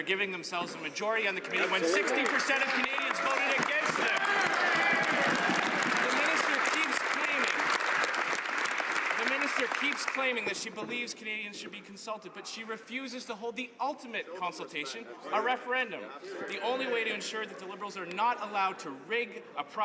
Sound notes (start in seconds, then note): 8.3 some Applause